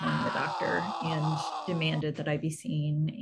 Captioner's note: frustrated scream